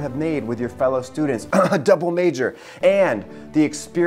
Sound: coughing

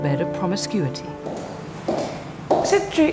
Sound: heels clack

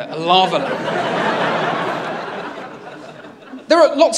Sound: laughter

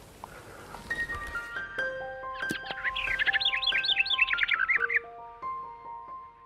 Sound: light piano music; birds chirping

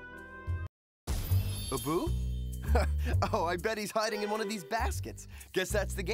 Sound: chuckles

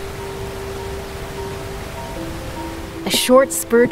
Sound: water rushing

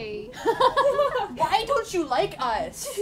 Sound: laughter

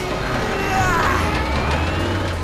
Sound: grunting

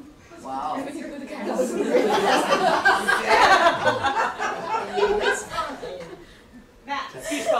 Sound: audience laughter

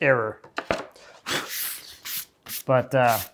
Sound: blows off dust

